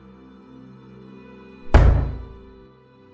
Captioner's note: pound on door